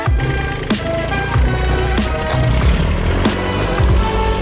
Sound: tractor engine running

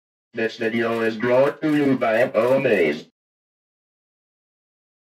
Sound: computer Voice

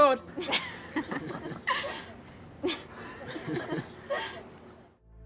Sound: laughter

